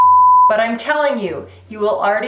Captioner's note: beep